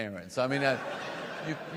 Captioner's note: audience laughs